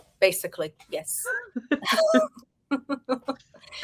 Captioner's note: women laughing